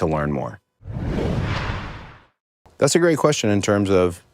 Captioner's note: logo whooshing